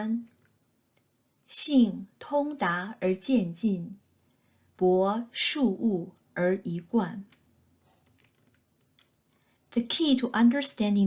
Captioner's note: click